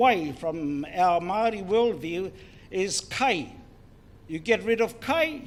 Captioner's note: foreign Language; foreign Language